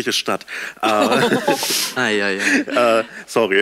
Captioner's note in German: Lachen